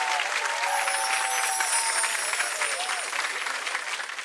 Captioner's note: audience cheering; chiming